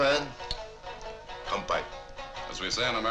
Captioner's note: speaks in foreign language